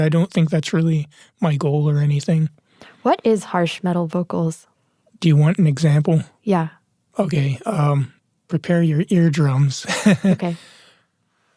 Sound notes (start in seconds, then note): 9.8 laughs